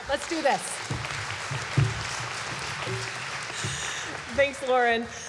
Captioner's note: applause